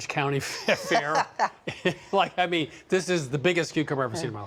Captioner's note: laughing; laughs